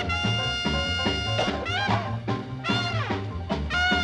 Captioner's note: coughing